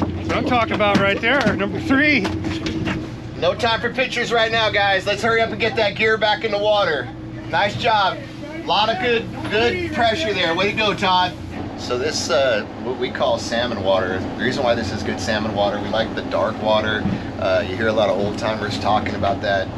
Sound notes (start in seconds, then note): 2.2 fish thrashing; 2.5 thunk, thunk; 14.0 boat engine running